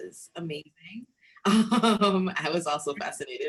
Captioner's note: both laughing